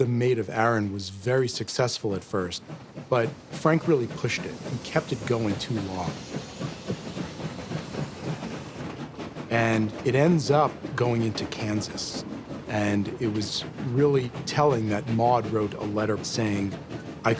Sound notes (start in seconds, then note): 6.8 train rumbling